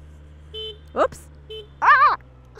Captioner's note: horn honks